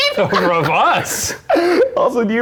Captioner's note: everyone laughing